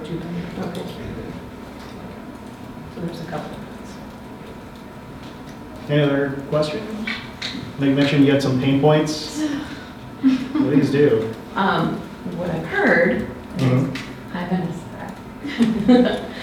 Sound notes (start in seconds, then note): 10.2 audience member chuckles; 15.4 laughs